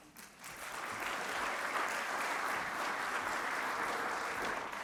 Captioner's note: audience applauds